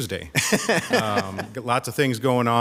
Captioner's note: laughing